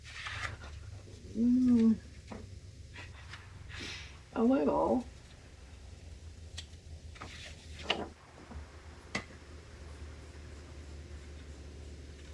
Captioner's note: laughs